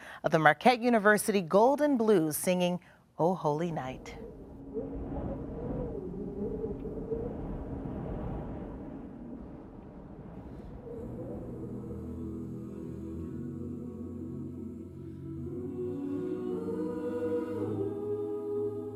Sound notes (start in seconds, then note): 12.8 wind sounds; 16.0 melodic humming